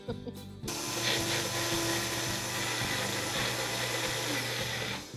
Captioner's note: chuckles; blenders whirring